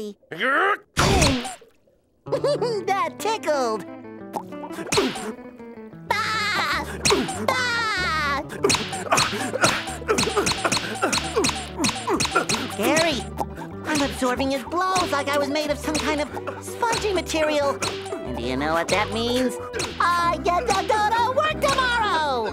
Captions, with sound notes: [grunting, squeaking] [giggling] That tickled. [squeaking] [laughing, squeaking] [grunting, squeaking] Gary, I'm absorbing his blows like I was made of some kind of spongy material. [squeaking] You know what that means? I get to go to work tomorrow.